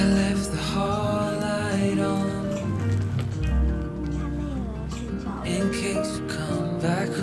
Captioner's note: laughs